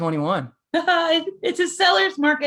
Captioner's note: chuckling